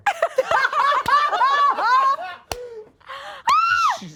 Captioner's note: all laugh